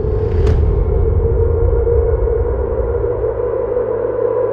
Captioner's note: graphic thuds